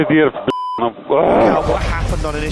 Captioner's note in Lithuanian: angry sounds